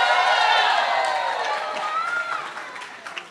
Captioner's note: cheering